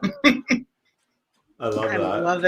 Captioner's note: laughs